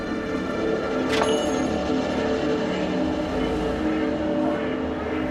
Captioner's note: bell jangling